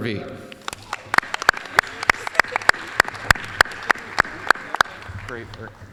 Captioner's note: applause